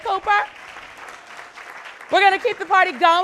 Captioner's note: audience clapping